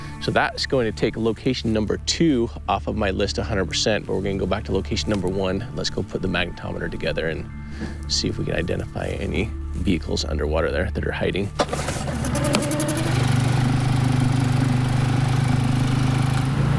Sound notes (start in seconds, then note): 11.5 engine wheezes; 13.2 engine rumbles